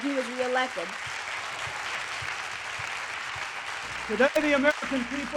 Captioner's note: cheers and applause